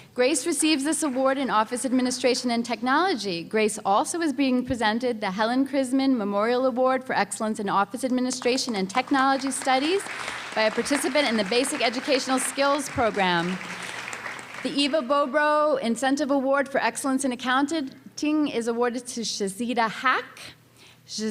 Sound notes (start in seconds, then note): 13.4 applause